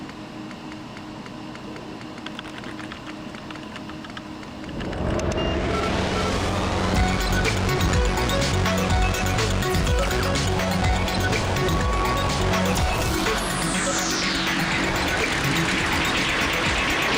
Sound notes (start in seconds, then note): 1.4 keyboard typing; 5.6 heavy electronic music